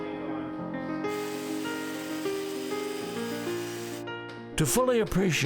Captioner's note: power drills